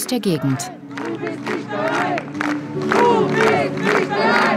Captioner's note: cheers